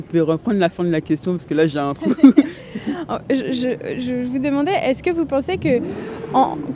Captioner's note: laughter